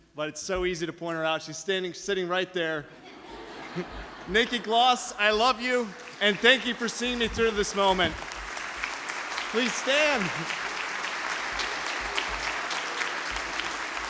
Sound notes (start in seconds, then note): 2.9 audience laughs; 9.0 audience applause